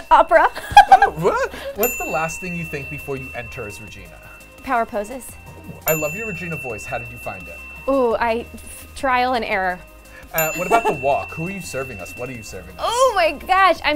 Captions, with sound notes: Opera. (laughter) Oh? (bell dings) What's the last thing you think before you enter as Regina? Power poses. (bell dings) I love your Regina voice, how did you find it? Ooh, trial and error. (bell dings) What about the walk, who are you serving us, what are you serving us? Oh, my gosh.